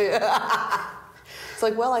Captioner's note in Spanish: risas